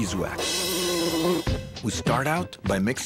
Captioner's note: bees buzzing